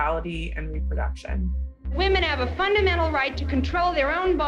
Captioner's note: soundbite of archived recording